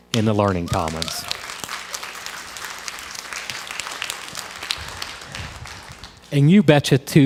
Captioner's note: crowd applause